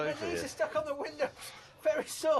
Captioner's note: none